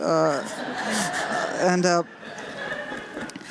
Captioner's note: laughter